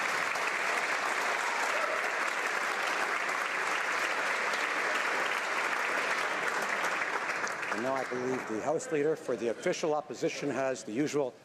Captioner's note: applause